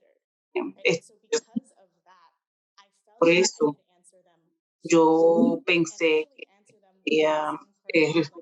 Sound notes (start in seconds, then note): 5.6 speaking Spanish